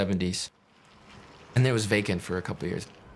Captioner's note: crunching sounds